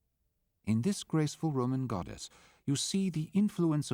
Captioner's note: voiceover